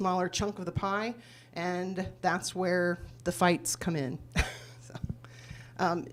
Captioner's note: laughs